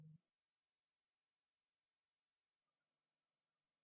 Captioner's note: silence